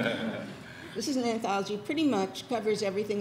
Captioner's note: audience laughs